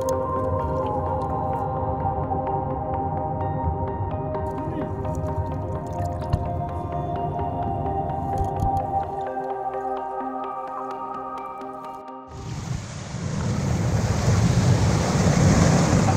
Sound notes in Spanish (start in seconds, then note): 4.5 agua salpicando suavemente; 5.8 reproducción de música suave; 12.3 rugido del agua